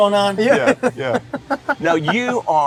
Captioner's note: laughs